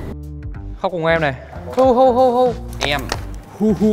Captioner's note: sobbing sounds